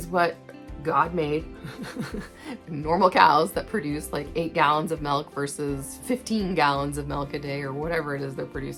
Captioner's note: laughing